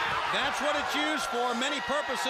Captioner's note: crowd chatter